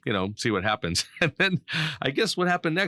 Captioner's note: laughs